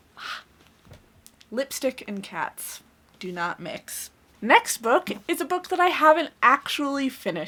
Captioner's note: blows